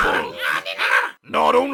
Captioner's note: Malchiorians cackling